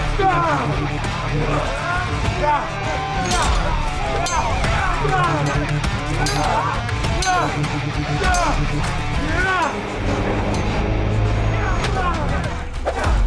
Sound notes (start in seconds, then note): 0.2 dramatic music; 5.1 all cheering; 7.7 swords clanging; 10.3 dramatic music